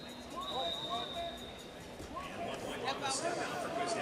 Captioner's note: whistle blows; crowd cheering